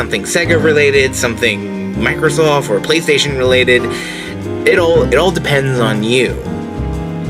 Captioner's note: stutters